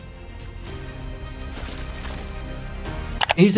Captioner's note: dramatic music; bodies squishing; screen clicking